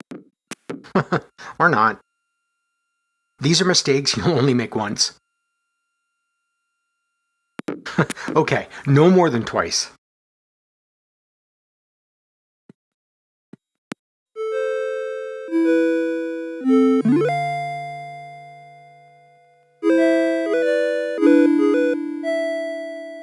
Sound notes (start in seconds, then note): 0.8 chuckles; 7.8 chuckles